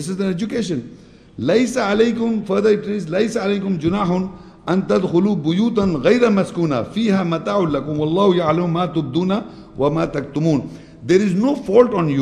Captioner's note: Arabic